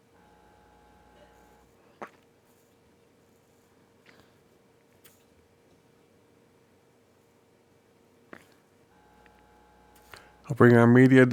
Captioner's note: silence